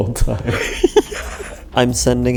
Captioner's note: laughs